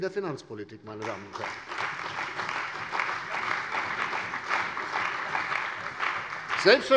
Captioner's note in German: Beifall bei der CDU und dem BÜNDNIS 90/DIE GRÜNEN